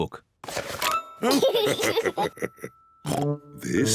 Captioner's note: giggles